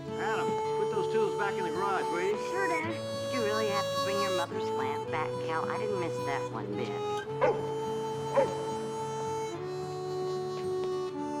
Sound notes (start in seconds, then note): 8.3 angus barking